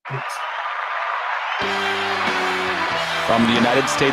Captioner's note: applause